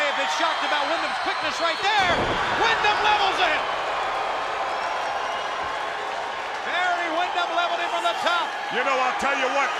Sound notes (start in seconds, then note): 5.0 crowd cheering